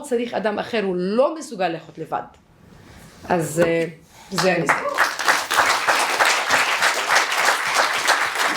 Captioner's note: applause